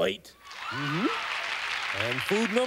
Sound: applause

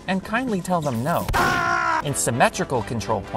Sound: anguished screams

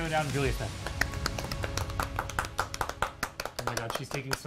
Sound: crew clapping

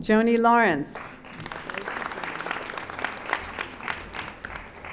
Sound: audience applauding

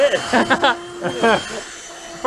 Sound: laughter

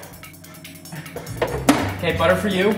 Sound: drawer closing

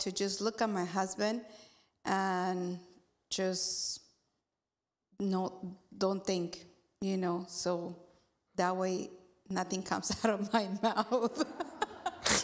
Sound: laughs, laughs

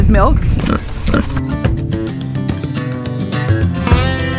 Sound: pig grunting

